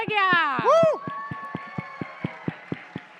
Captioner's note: cheering and applause